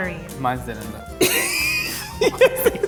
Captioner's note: laughing